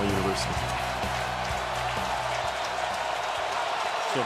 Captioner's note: cheering